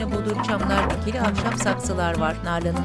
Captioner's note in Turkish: Kapı açılma sesi